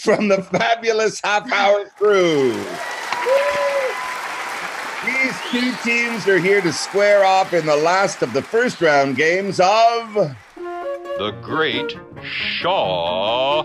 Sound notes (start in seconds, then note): 2.8 cheering